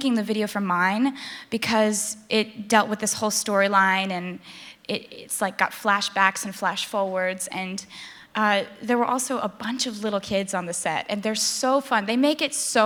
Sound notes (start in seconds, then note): none